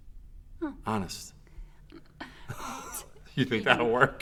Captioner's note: laughs